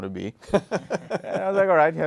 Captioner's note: laughing